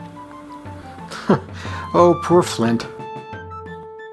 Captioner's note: chuckles